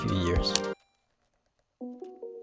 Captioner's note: remote click